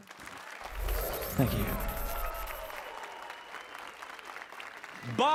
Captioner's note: applause and cheers